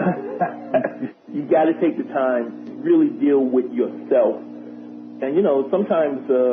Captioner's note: laughter